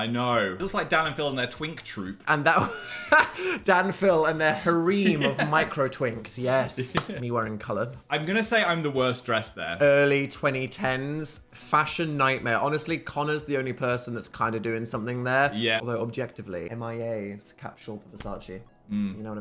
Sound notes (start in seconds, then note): 2.6 laughs